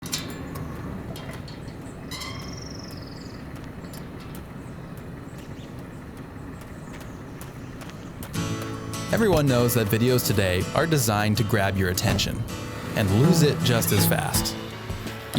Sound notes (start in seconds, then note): 0.2 metal clangs; 2.0 birds chirping; 5.5 footsteps banging; 8.6 gentle guitar music